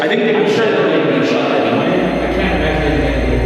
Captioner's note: room echoing